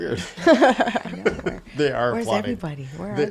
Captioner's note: laughing